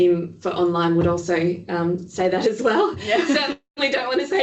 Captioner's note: laughing